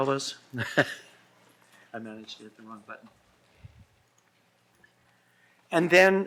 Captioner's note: laughs